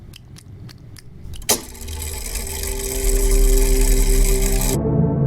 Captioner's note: sounds of cat eating; mechanism whirring